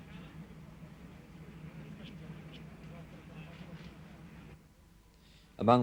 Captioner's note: indistinct chatter